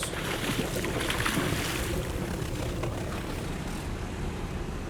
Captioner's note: fish splashes